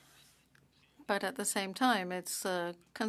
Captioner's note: speaking French